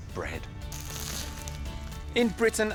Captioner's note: bread crunches